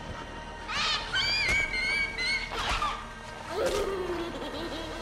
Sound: baby crying

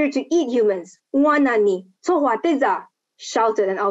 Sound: speaking Lisu language

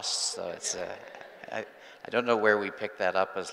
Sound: group laughing

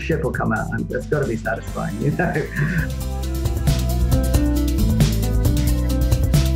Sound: laughs; upbeat music

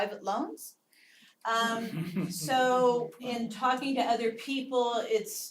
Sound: laugh

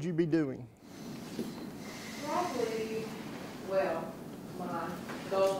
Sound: voiceover

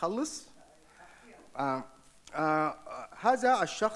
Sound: speaks off microphone; speaks in foreign language

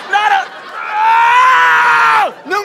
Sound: yells in frustration

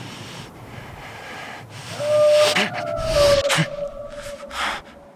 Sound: animal Howls Again

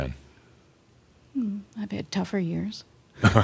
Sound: they chuckle

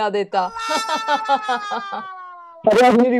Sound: laughing

